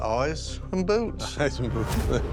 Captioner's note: chuckles